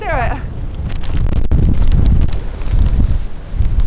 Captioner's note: wind